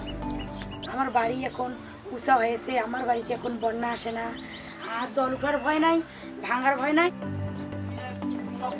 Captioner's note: foreign language